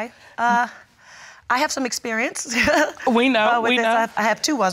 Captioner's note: chuckles